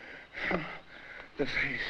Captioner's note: Barney moans